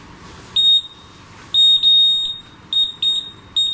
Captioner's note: device beeps